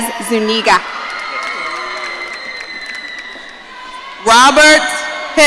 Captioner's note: audience cheering